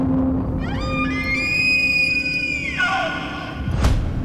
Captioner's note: animal sounds